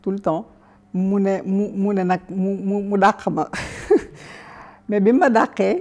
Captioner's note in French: rire